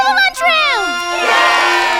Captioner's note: cheering